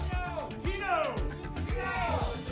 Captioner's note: audience shouting "keno"